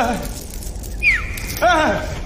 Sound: whistles

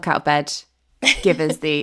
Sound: laughing

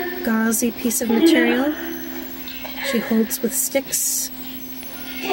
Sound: laughing

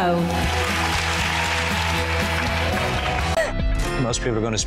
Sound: uplifting music; crowd cheers

